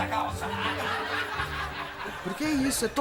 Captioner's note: audience laughter